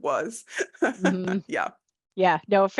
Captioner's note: laughing